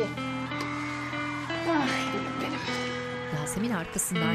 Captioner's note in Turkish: Fonda alkış ve ıslık sesleri